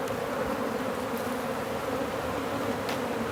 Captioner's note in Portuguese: Zumbido de abelha